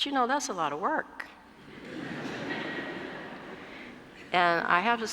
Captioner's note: laugh